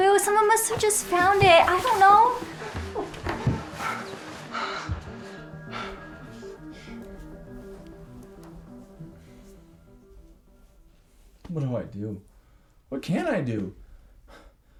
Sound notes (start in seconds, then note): 4.0 gentle dramatic music; 4.5 Blaine gasping